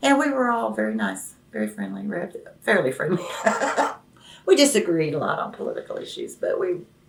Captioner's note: laughs